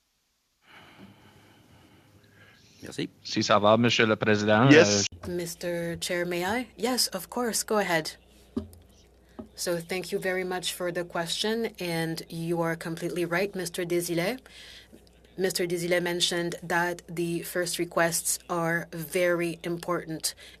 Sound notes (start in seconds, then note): 10.4 speaking French